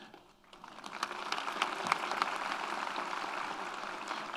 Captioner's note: audience applauds